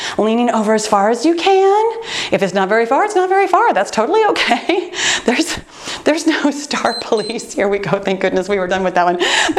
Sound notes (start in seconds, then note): 6.8 timer beeps